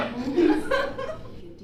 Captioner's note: audience laughing